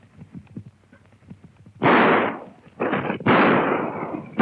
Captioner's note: gunshots